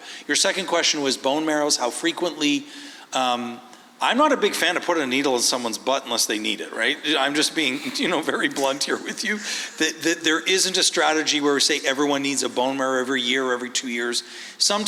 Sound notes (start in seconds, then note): 8.4 laughs